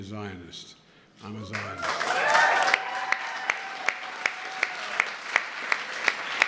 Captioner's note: applause